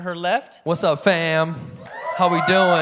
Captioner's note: audience cheering